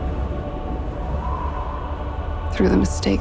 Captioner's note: wind howls